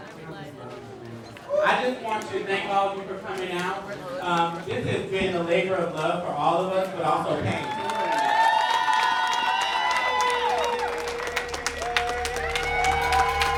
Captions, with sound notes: - I just want you to thank all of you for coming out. This has been a labor of love for all of us but also pain. [group clapping and cheering]